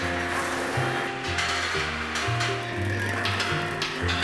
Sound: sound of balls rolling around

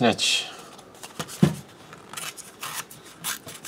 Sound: tearing sounds

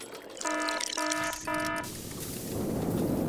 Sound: alarm ringing

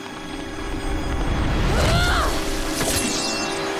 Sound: grunting

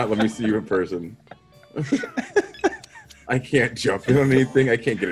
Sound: laugh

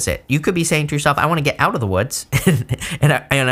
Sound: chuckling

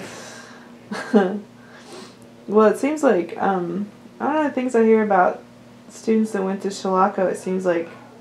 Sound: laughter

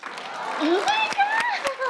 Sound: applause

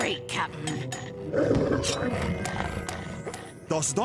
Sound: teeth chattering; growling

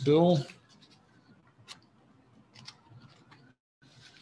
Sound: pen scratches

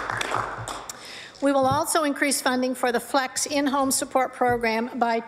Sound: applause

